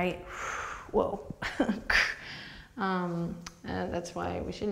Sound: laughs

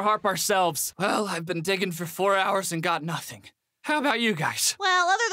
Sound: exhausted

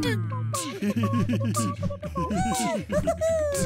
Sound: laughing

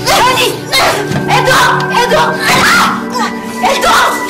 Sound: screams

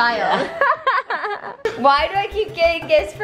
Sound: laughter

